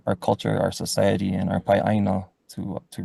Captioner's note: speaks foreign language